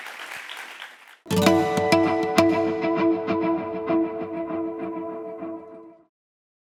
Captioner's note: applause